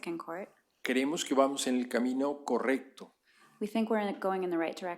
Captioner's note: speaking spanish